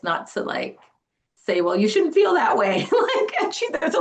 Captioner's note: laughs